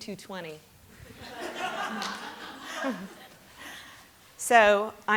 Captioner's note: laughter